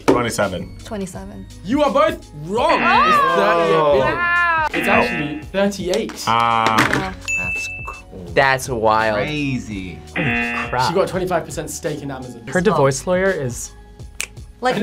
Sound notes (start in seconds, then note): 2.6 buzzer; 4.7 buzzer; 10.2 buzzer; 14.1 snaps fingers